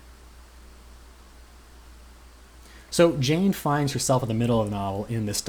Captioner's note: pause